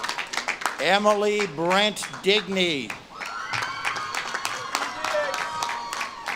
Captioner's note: audience claps and cheers